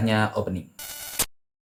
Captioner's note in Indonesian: suara interferensi